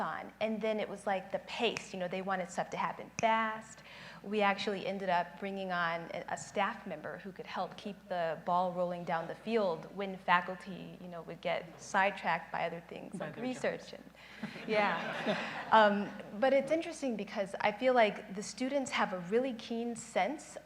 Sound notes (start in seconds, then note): 1.1 snaps fingers